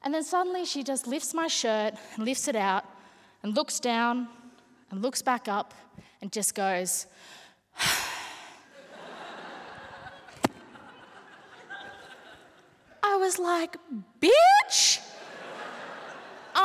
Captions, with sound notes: And then suddenly, she just lifts my shirt, lifts it out, and looks down, and looks back up, and just goes-- [SIGH] [LAUGHTER] I was like, bitch. [LAUGHTER]